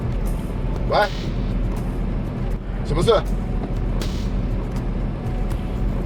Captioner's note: ominous beat music; man speaking foreign language